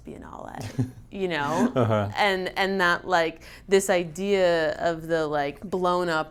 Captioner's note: chuckles